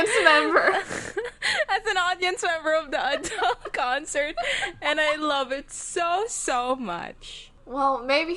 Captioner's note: both laughing